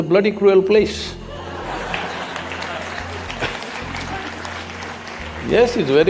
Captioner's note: audience laughing and clapping